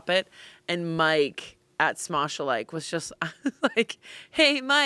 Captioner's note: laughs